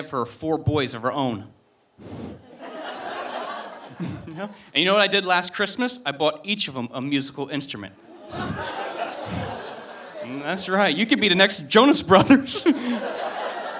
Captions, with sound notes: four boys of her own. And you know what I did last Christmas, I bought each of them a musical instrument. (audience laughing) That's right, you could be the next Jonas Brothers.